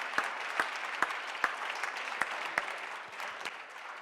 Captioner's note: applause